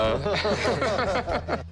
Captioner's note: laughter